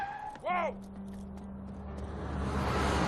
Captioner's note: cars honking; cop swearing